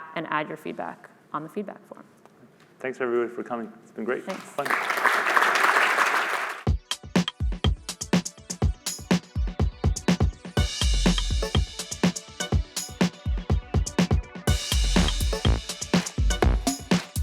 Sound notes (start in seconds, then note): 4.2 applause